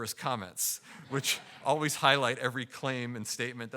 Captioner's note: audience laughing